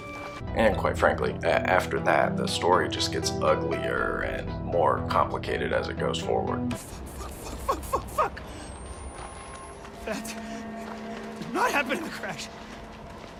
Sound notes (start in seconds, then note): 0.0 game audio; 7.0 game audio